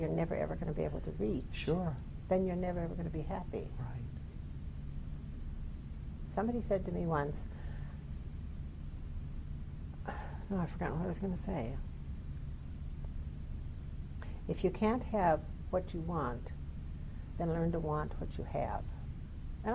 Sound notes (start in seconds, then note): 10.0 sigh